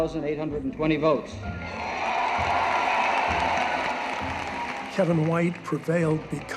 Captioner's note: audience cheers and applauds